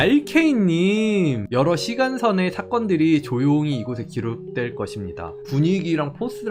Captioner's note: voiceover